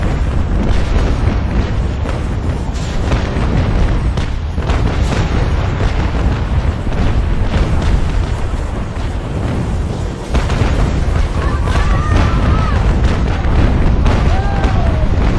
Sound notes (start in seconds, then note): 5.5 explosions booming; 14.0 soldiers shouting; 15.1 explosions booming